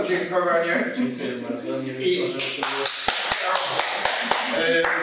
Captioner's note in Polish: oklaski